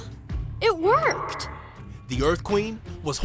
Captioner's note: echoing